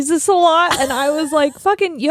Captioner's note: laughing